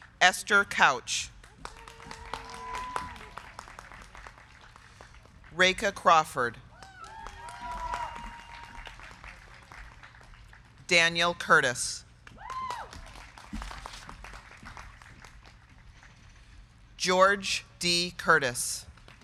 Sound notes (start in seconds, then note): 1.4 crowd cheering; 1.7 crowd clapping; 6.7 crowd cheering; 7.1 crowd clapping; 12.2 crowd clapping; 12.3 crowd cheering